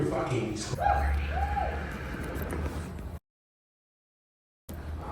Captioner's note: audience whooping